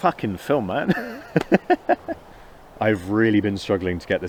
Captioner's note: laughs